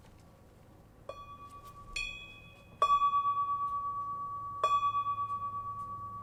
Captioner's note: bell chimes gently ringing